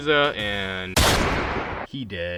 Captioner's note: gunshot bangs